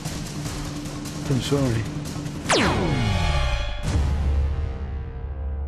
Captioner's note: laser blast